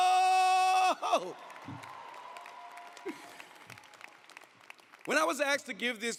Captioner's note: audience applauding